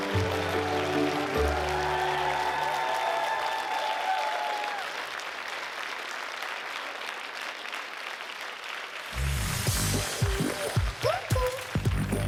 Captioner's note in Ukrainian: оплески